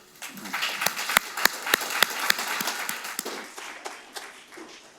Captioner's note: audience applauding